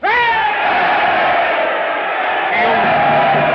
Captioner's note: all cheering